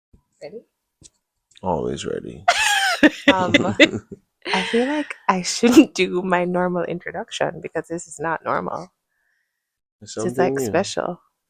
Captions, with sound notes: ready. Always ready. [laughter] Um, I feel like I shouldn't do my normal introduction because this is not normal. This is like special.